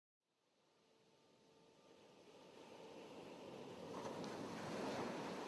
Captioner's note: waves lightly lapping